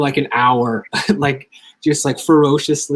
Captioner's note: chuckles